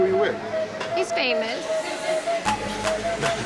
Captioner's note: people laughing; laughs